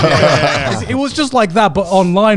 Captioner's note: everyone laughing